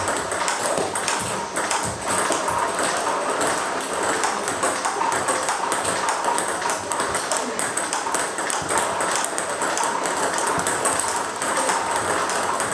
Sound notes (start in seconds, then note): 6.0 ball ping pong hitting continues